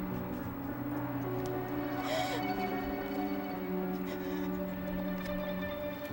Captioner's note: sobs